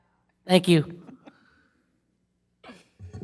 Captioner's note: laughter